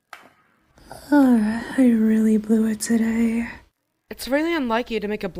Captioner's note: Amy sighs